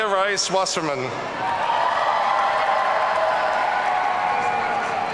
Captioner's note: audience cheering